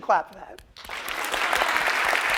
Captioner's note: applause